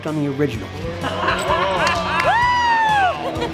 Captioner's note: crowd cheering